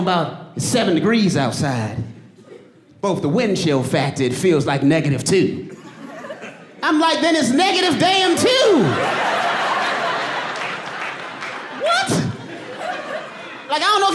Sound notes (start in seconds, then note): 8.1 audience laughing